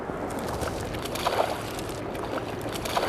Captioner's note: repeated splashing